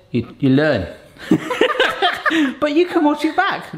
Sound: laughing

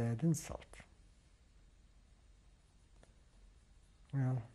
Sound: pauses for 3 seconds

